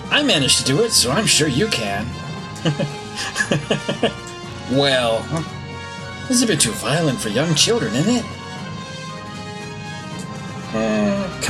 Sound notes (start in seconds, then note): 2.5 laughs